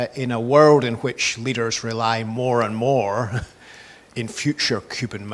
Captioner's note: laughs